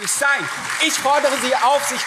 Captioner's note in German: Beifall CDU, SPD und BÜNDNIS 90/DIE GRÜNEN